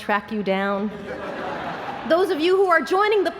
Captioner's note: laughter